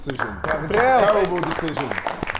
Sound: Sidemen applauding

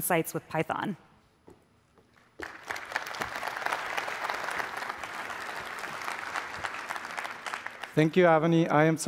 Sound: applause

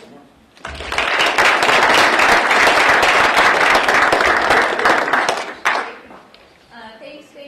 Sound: applause

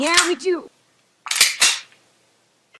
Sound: gun Cocking

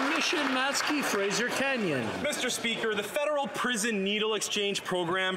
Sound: some Applause

